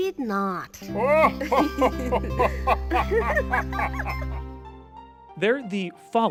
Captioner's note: King and Zelda Laughing Horribly